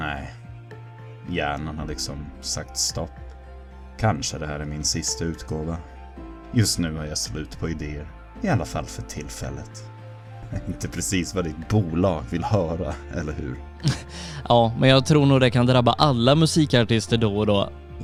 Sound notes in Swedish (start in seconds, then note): 10.4 Skratt; 13.8 Fniss